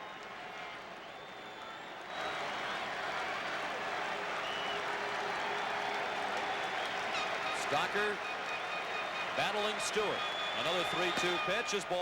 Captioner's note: applause